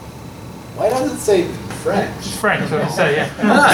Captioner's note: laughter